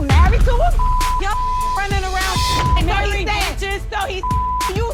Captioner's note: beep